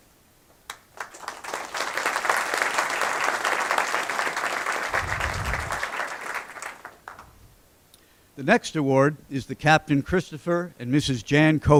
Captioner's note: applause